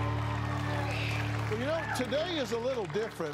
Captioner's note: cheers and applause